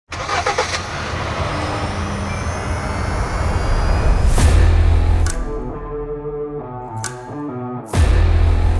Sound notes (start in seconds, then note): 0.1 car engine ignites and revs; 4.4 upbeat music